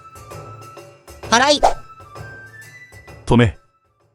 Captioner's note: sweeping